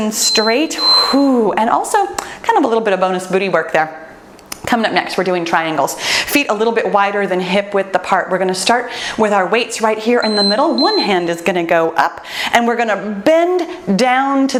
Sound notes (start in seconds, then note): 10.2 timer beeps